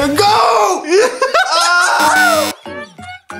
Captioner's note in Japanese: ブブー音